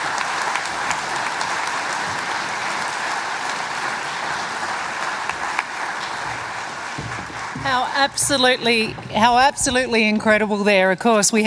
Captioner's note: applause